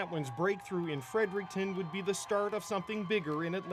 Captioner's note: cheers and Applause